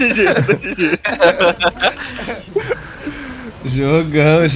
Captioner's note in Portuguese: risos